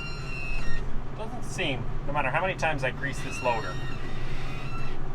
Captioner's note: squeal